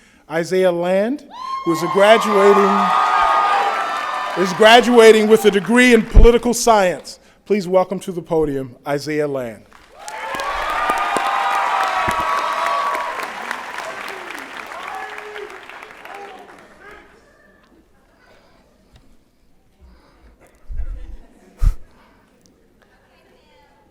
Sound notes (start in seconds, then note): 9.7 applause and Cheering